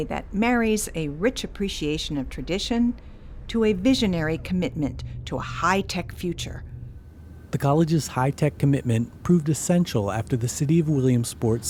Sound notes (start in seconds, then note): 7.6 voiceover